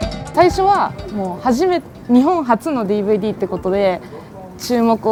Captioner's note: speaking in foreign language